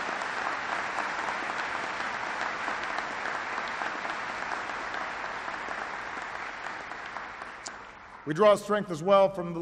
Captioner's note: applause